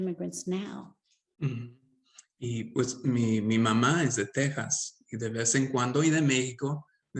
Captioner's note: speaking Spanish